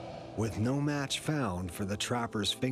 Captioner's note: voiceover